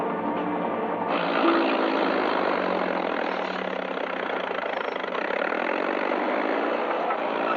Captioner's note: tractor whirring